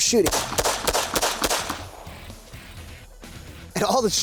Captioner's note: fires gun